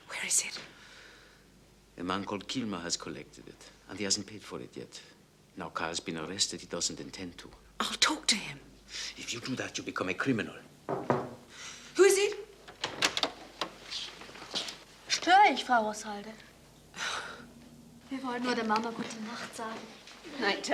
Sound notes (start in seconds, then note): 10.8 knock